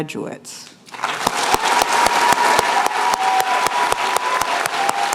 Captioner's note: cheers and applause